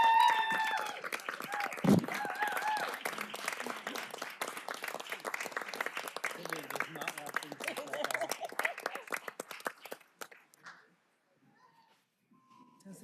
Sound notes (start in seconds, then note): 0.0 applause; 2.5 cheers and applause